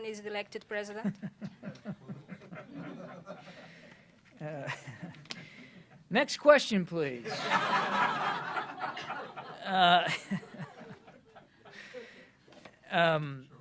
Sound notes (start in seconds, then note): 2.0 laughter